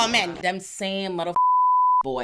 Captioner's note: beep